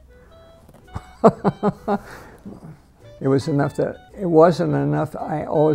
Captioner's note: laughing